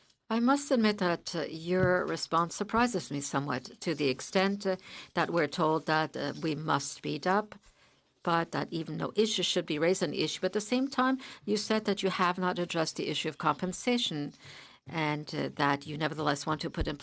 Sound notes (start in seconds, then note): 2.1 speaking in French